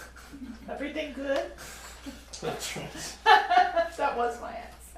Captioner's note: laughter